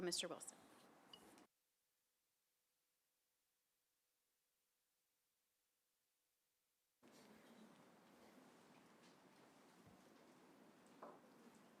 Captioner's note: silence